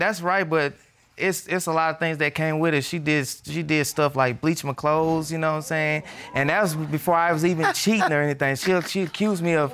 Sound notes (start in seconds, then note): 5.5 audience exclaiming; 7.6 scoffs